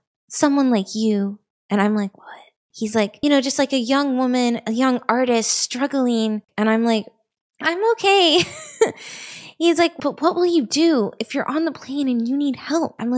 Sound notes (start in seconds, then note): 2.0 whispers; 8.5 nervous chuckle